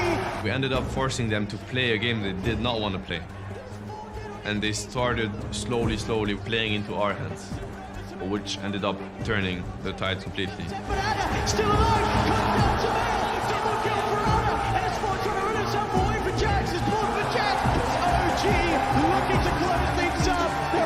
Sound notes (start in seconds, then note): 14.9 crowd continues cheering